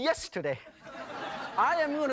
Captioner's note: audience laughing